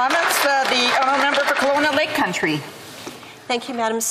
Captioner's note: applause